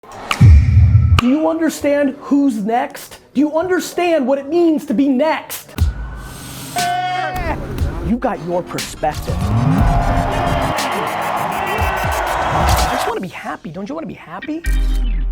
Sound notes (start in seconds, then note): 9.2 crowd cheers